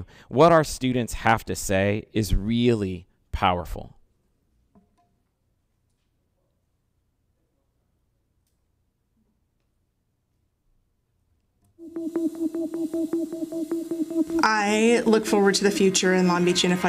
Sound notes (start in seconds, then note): 8.2 clicking; 11.8 upbeat music